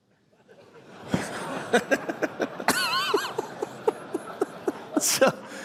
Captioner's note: laughter